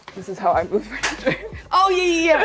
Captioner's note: laughs